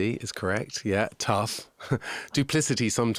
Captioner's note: laughing